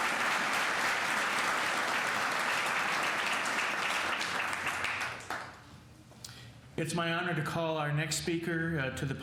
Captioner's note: cheers and applause